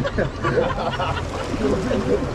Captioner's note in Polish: śmiech